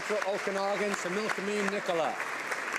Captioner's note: applause